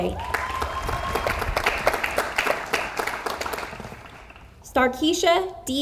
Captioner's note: audience applauds